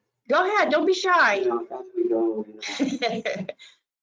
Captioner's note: giggling